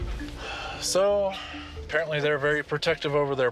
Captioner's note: sighs